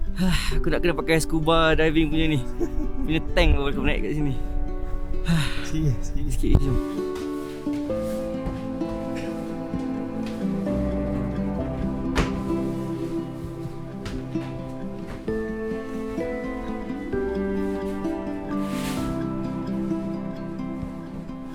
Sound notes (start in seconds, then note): 0.2 gasp; 6.8 background music